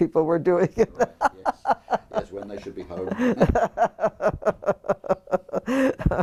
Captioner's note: laugh